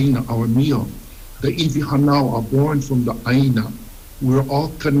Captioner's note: speaks Hawaiian